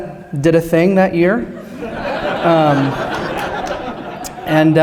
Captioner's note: laughter